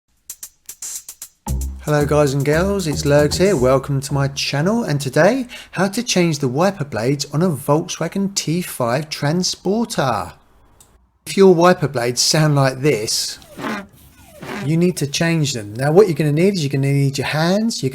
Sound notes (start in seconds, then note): 13.0 awful scraping sound